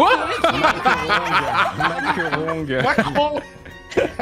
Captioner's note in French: rires